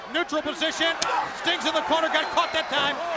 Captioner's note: chop striking